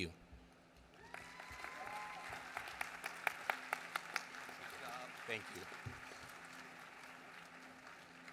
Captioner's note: applause